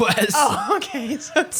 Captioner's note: laughs